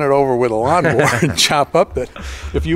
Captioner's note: laughter